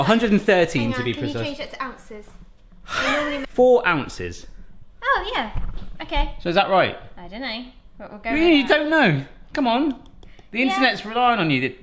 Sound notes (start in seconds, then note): 2.9 laughs